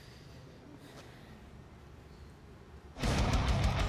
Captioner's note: breathing hard